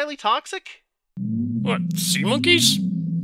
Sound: louder weird humming

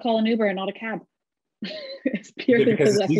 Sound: chuckles

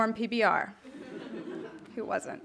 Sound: audience laughing

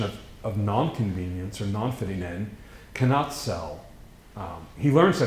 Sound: foreign language

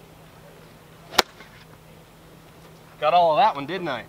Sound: swinging golf club

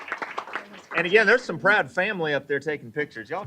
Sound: applause

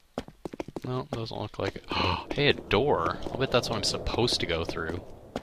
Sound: gasps

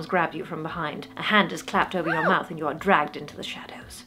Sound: undignified squeak

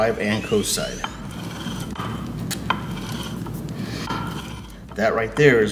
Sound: grinding continues

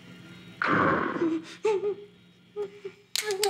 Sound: Donald growls; Roger whimpers; needle clacks

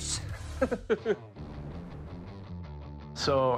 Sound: laughs

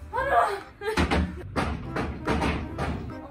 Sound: knock

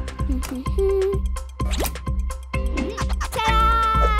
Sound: giggling

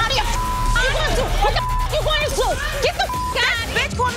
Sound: beep

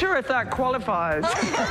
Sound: laughter

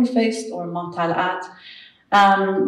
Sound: speaks in foreign language

